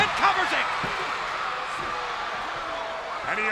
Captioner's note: spectators cheering